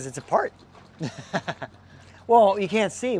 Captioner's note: laughs